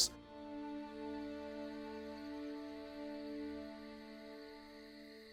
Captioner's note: crickets chirping